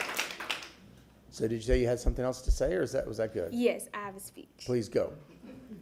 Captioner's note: applause